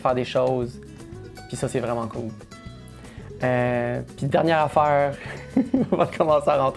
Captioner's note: laughs